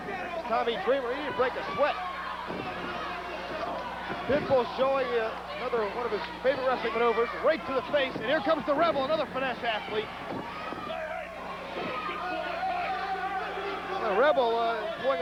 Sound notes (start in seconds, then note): 2.2 crowd cheering; 10.9 crowd cheering